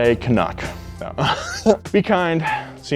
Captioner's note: laughs